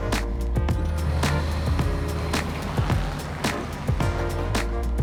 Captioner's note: luggage rustling; car engine revving; upbeat music